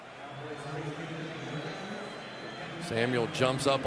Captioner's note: pa announcement